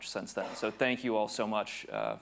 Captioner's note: attendee coughing